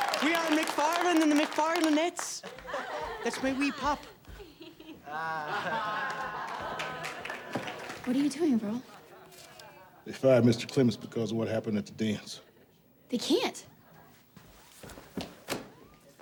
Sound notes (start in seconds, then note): 2.4 class laughs